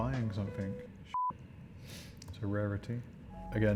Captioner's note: beep